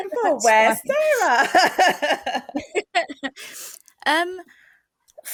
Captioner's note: laughter